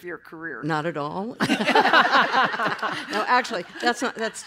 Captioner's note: laughter